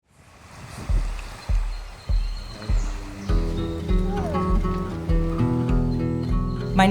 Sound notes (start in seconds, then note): 0.1 waves humming; 0.6 birds chirping; 3.5 gentle music